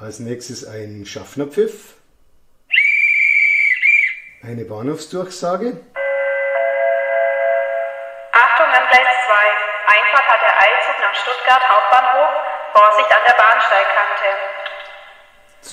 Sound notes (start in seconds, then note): 6.0 gong